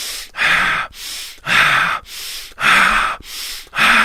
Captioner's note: breathing